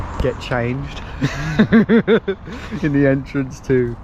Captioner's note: group laughs